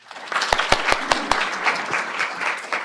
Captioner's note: applause